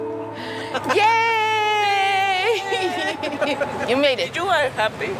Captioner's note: laughs